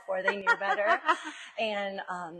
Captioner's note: laughs